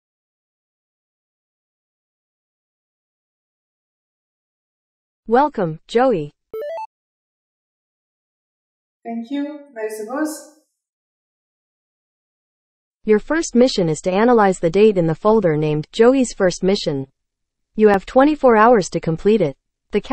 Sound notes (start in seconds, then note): 6.5 notification sound